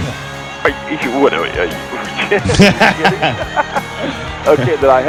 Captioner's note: both chuckle